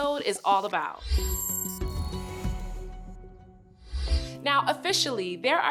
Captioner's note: lively music; screen whooshing